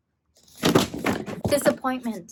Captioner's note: books thumping